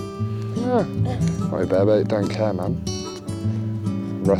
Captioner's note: groans